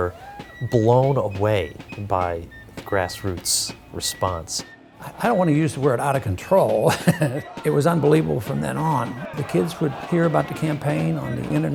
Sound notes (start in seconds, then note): 6.6 laughs